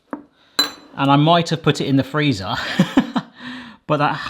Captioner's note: laughs